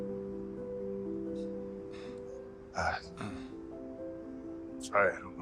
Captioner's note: clearing throat